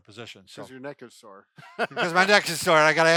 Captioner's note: laughs